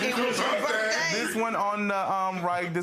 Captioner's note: laughing